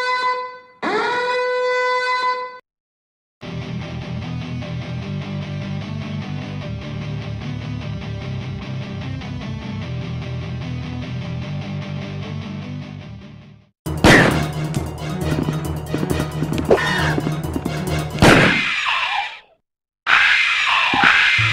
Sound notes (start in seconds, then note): 14.0 gunshot; 18.2 gunshot